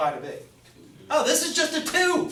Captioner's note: voiceover